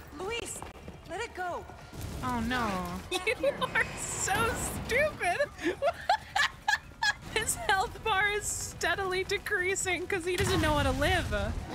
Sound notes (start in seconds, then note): 5.5 laughter